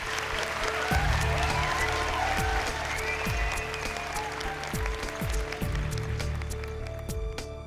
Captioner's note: applause